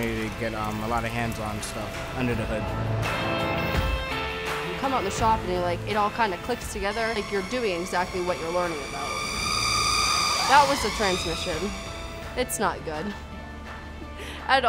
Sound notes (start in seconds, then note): 3.4 rock music; 8.8 loud squealing